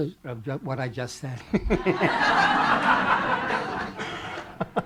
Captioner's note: laughter